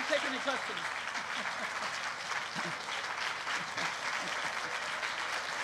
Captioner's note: applause